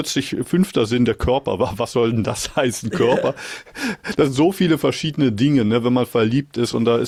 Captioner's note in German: gelächter